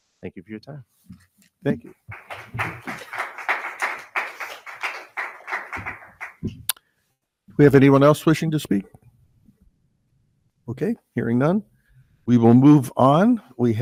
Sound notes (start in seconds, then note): 1.9 audience applauding